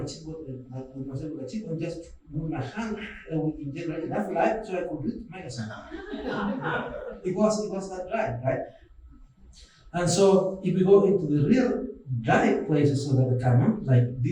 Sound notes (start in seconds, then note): 5.3 laughing